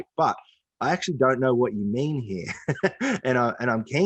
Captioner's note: laughs